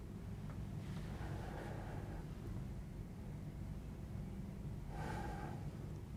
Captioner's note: beginning to breathe heavily